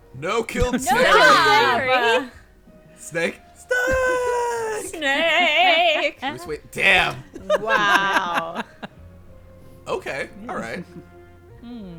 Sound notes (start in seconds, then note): 7.9 group laughing